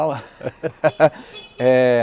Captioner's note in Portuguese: risos